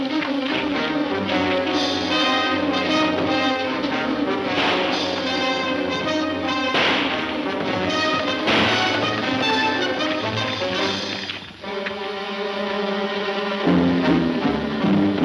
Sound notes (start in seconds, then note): 3.3 gunfire pops